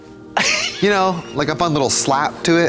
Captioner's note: Katya wheezes